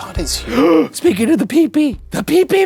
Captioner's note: gasps